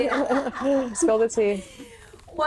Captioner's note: laughing